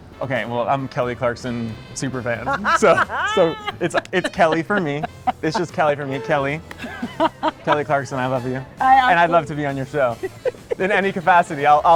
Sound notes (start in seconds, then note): 2.4 laughing